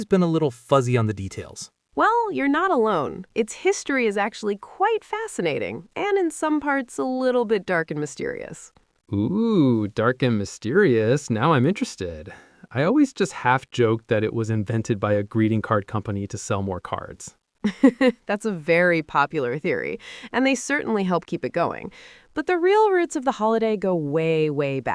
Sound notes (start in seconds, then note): 17.9 laughs